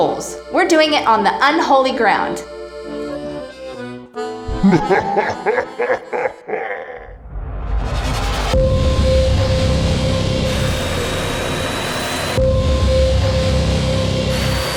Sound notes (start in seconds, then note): 4.3 devilish laughing; 7.1 suspenseful music